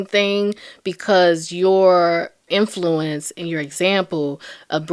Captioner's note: none